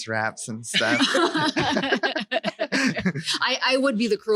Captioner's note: laughing